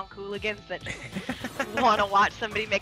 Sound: laugh

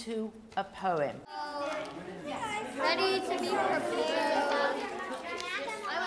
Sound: indistinct chatter

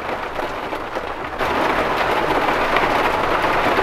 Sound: heavy rain storm sounds

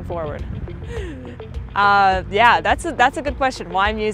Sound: laughs

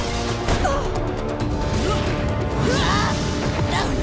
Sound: grunting

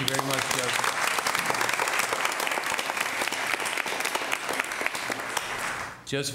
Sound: applause

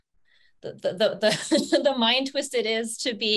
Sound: laughing

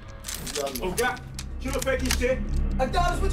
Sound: guns clicking; Baba speaking in Igbo

